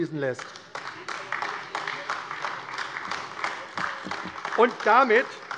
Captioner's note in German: Beifall AfD